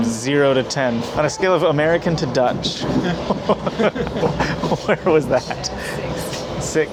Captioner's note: laughing